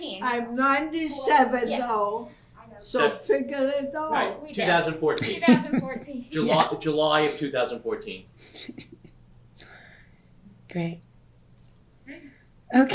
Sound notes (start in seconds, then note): 4.5 laughs